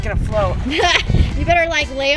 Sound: mom laughs

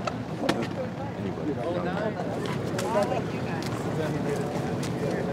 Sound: muffled chatter

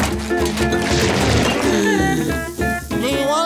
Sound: gasping

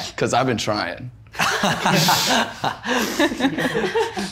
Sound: laughs

